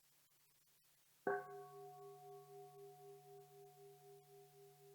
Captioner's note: bell dinging